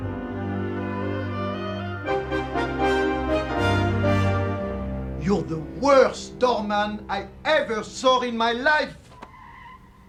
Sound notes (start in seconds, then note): 5.2 french Accent